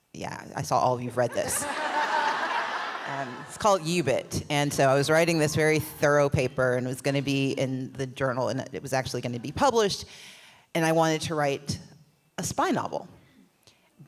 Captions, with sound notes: Yeah, I saw all of you read this. (laughs) It’s called UBIT. And so, I was writing this very thorough paper and it was gonna be in the journal, and it was actually gonna be published. And I wanted to write a spy novel.